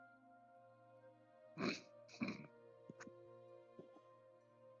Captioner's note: laughs